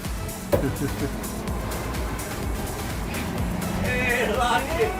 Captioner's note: sound of knocking on the front door